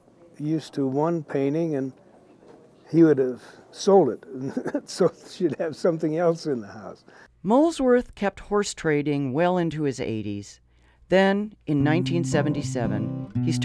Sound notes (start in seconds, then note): 4.3 laughing; 11.9 emotional guitar music